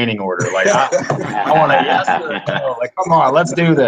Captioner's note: laughter